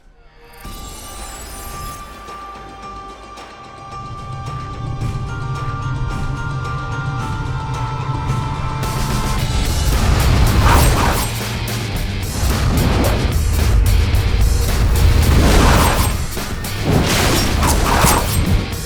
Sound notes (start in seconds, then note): 0.3 tense foreboding music; 4.0 air whooshing; 9.3 intense rock music; 9.8 needles whizzing; 11.0 intense rock music; 12.4 air whooshing; 14.6 needles whizzing